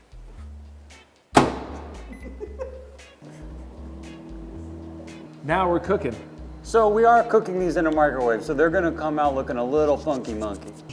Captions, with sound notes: (microwave door clunks) (man laughing) (microwave whirring) Now we're cooking. - So we are cooking these in a microwave. So they're gonna come out looking a little funky monkey.